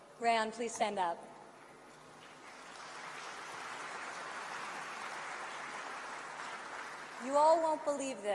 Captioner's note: applause